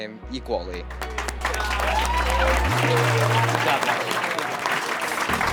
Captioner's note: audience applauding